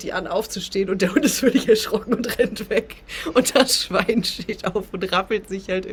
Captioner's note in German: gelächter